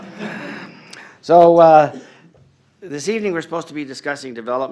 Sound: laughter

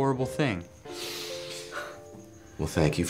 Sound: inhales sharply

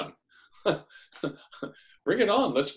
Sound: chuckles

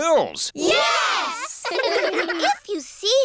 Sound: giggling

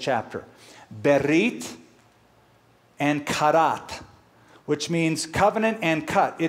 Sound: speaking hebrew

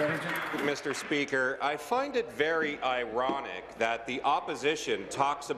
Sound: applause

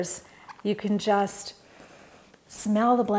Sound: inhales deeply

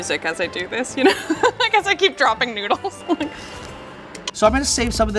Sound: laughs

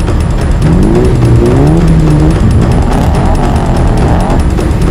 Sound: engines Rev

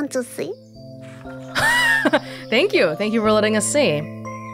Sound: chuckles

